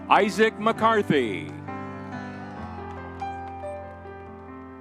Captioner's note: crowd cheering